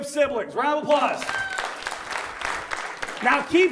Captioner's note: audience applauds